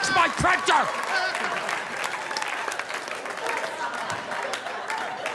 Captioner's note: audience applauding